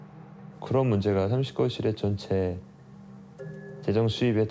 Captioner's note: speaking Korean